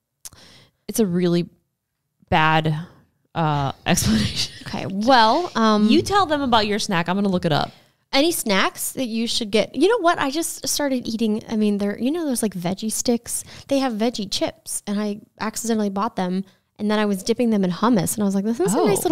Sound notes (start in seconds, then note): 3.9 laughs